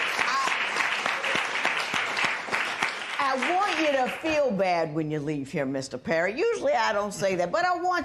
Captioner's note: applause